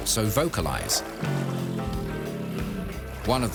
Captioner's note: grunting